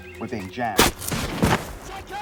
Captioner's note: gunshots whooshing